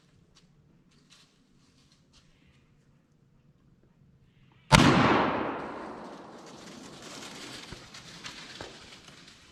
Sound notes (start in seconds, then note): 4.7 gunshot firing